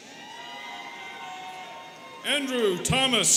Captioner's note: students cheering